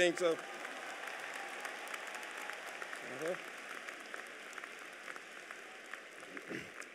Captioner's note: applause